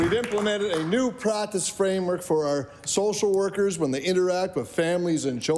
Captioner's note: applause